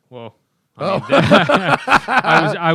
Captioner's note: laughs